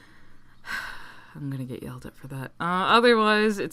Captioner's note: sigh